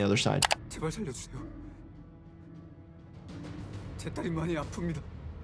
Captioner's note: speaking foreign language